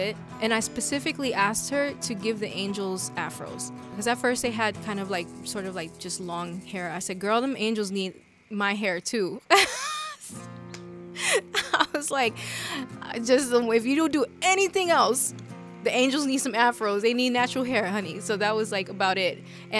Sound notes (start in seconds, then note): 9.3 laughs